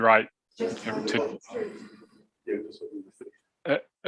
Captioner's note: background chatter